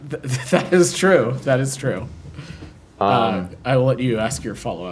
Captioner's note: laughter